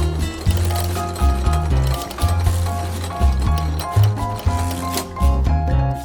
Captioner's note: gears whirring